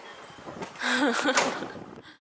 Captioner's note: laughs